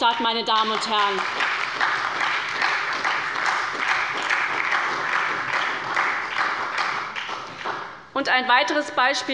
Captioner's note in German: Beifall bei der SPD